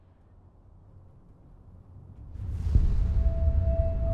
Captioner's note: distant rumbling